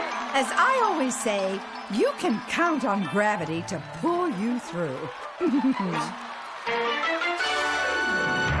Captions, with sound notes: AS I ALWAYS SAY, YOU CAN COUNT ON GRAVITY TO PULL YOU THROUGH. [ CHUCKLES ]